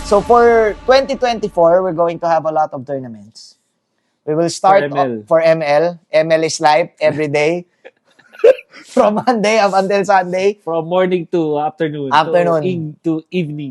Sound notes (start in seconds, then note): 0.0 intro plays; 8.2 laughter